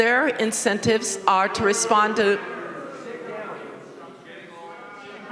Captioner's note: members booing